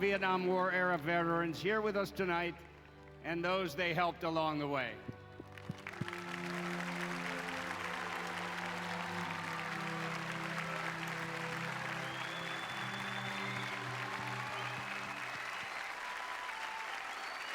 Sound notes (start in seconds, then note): 5.2 applause